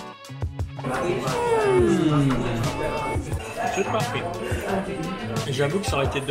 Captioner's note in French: Nous soupirons tous les deux joyeusement